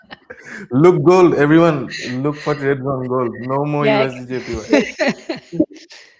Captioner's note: laughter